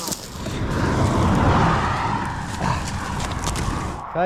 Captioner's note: cars whooshing